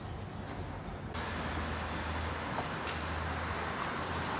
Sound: traffic noises

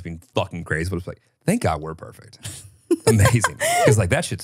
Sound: laughs

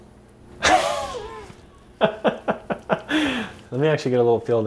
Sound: laughing

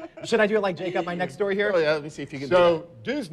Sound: laughter

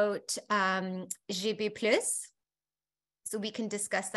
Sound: speaking foreign language

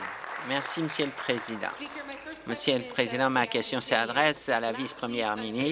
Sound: applause

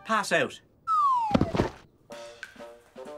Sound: thud!

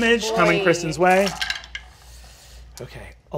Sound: several dice rolling

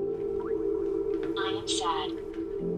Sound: recorded voice

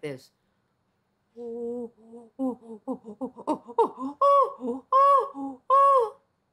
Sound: imitating chimpanzee greeting

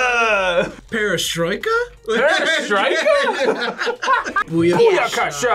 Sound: laughs

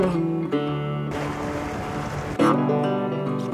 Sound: water Rushing

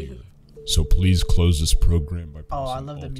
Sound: voice-over

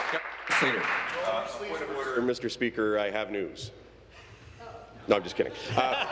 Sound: applause

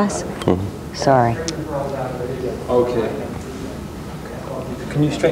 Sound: distant chatter

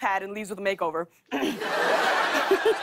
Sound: clears throat, laughs

